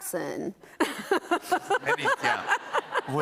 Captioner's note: laughs